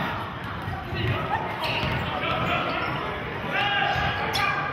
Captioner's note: yelling